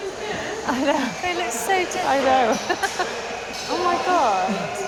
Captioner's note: laughs